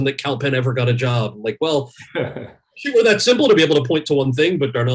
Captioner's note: laughs